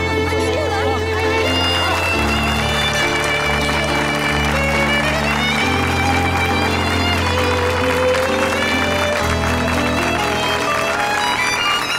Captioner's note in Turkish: alkış sesi